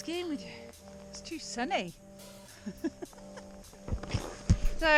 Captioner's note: laughs